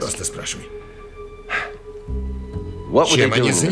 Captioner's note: sighs